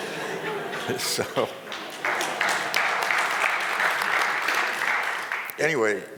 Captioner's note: Crowd and Frank Gehry laughing; crowd Applauding